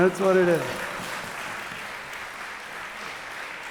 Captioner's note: applause